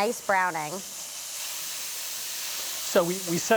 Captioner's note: sizzling